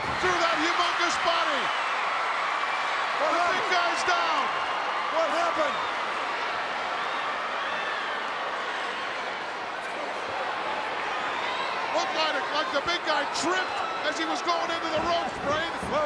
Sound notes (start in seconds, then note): 1.6 crowd cheering; 5.9 crowd cheering